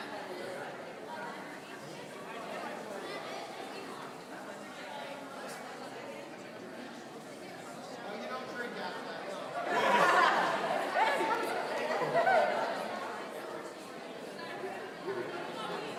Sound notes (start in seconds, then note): 9.7 laughing